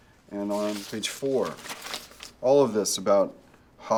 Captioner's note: paper rustling